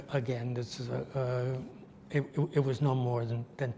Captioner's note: none